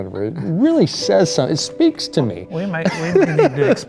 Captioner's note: laughs